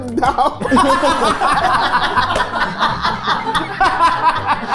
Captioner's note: group laughing